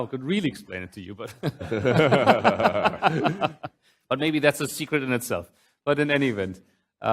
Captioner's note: laughs